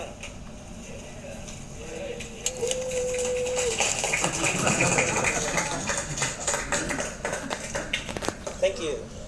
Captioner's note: applause